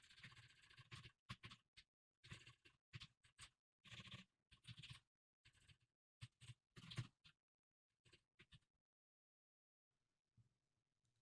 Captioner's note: typing sounds